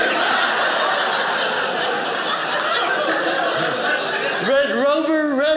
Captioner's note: audience laughing